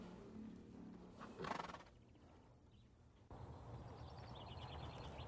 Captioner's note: horse snickering; birds chirping